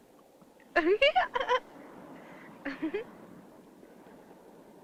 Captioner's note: laugh